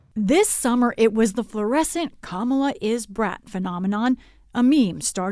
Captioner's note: voice-over